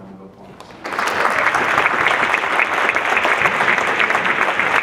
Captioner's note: audience clapping